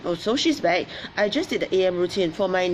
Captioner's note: none